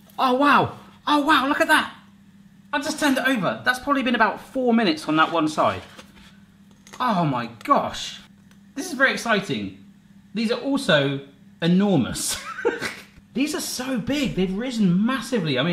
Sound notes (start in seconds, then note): 12.4 laughing